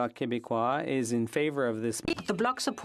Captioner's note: speaking French